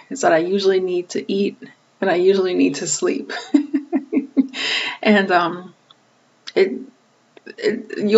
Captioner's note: laughing